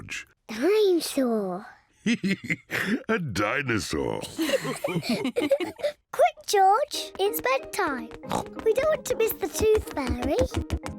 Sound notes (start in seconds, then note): 2.0 laughs; 4.3 all laugh